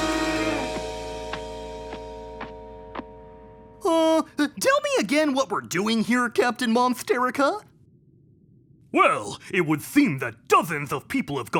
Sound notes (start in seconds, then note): 0.5 stomping